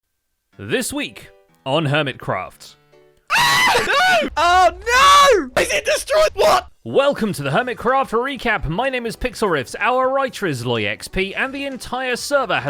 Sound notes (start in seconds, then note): 3.2 screaming; 3.5 explosions